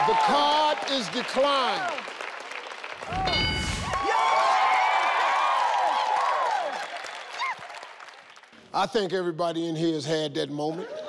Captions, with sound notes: - The card is declined! (buzzer dings) (cheering) I think everybody in here has had that moment.